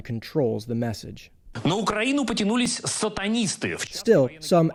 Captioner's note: speaking foreign language